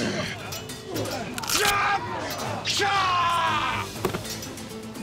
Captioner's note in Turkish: Dövüş sesleri